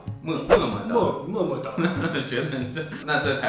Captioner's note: laughing